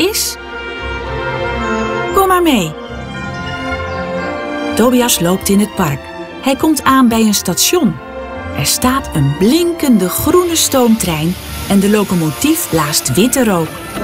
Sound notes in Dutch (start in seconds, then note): 10.2 de rook blaast